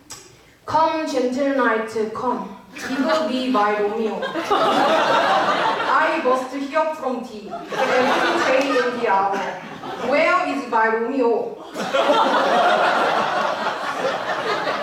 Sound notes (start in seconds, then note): 0.8 in thick Korean accent